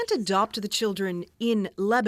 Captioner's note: bombing